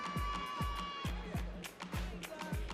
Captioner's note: audience cheering